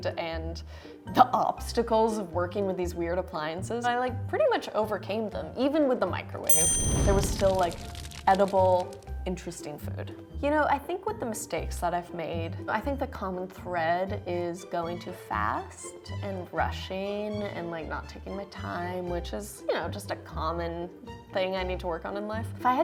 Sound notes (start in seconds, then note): 6.5 ding; 6.9 sounds of fire burning